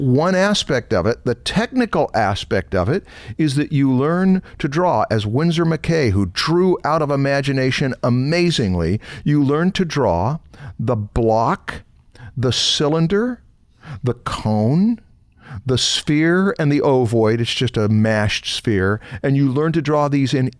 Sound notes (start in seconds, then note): none